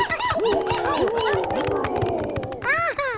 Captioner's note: hooting